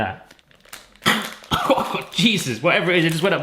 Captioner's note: coughing